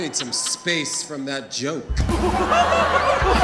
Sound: audience laughing

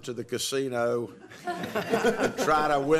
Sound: laughter

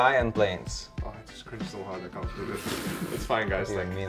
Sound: snorts

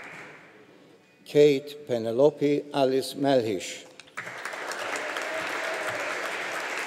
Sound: audience applauding

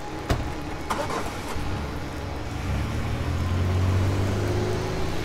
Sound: car engine rumbling

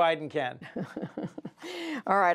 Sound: laughter

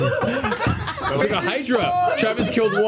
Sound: all laugh

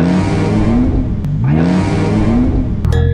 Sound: engine rumbling

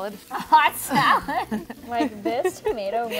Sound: both laugh

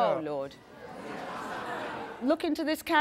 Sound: audience laughs

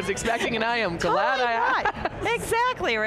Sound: laughing

